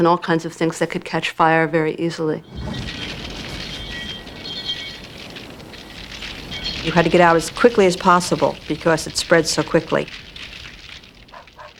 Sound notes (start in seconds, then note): 2.3 fire Crackling, Bell Ringing